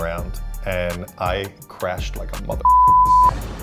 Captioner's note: beeping tone